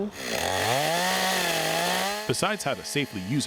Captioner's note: chainsaw buzzing